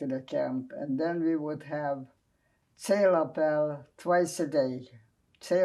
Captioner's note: non-english